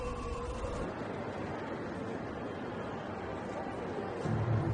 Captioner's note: crowd humming